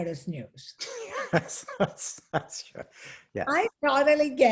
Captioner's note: laughs